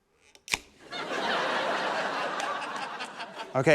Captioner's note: laughter